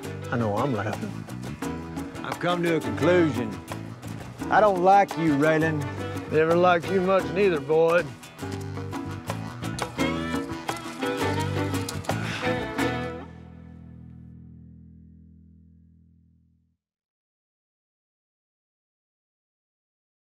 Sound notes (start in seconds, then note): 8.2 mid-tempo music; 12.1 grunts